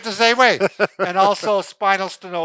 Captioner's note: laughing